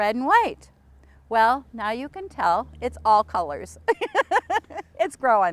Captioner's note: laughs